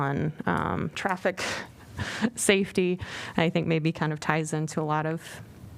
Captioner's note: laughter